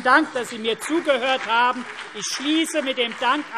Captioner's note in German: Beifall CDU und BÜNDNIS 90/DIE GRÜNEN